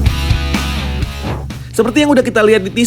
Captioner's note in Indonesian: suara transisi